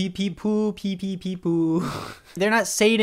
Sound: laughs

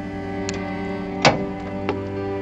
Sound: ambient music; wires clanking; ambient music

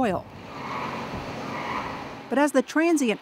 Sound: oil rig squeaks

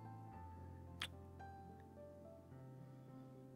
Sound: kiss

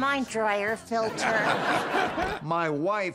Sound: audience laughing

